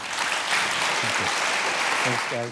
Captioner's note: applause